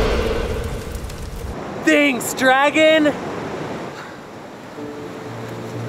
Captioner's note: deep growling